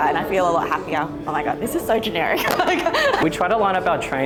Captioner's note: laughs